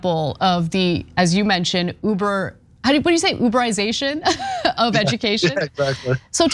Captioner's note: laugh